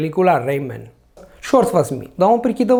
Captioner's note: Spanish